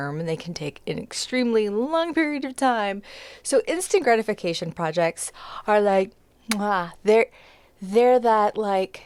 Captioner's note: kiss muh-aah